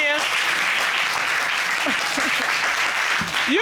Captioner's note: applause